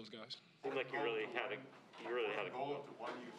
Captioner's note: reporters chattering